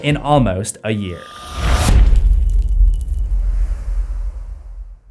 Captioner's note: impact